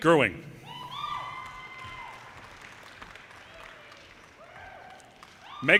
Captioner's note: audience cheers and applause